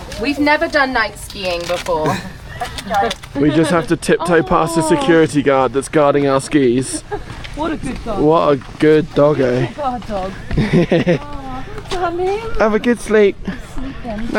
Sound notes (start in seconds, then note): 10.4 chuckles